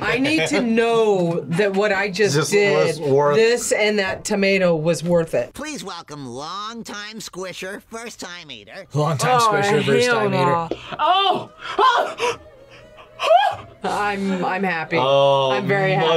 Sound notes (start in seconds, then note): 13.2 screams